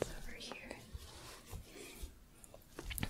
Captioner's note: shuffling